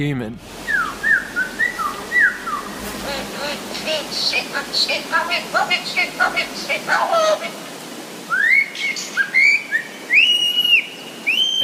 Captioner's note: lyrebird recordings plays